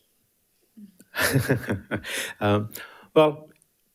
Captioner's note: laughing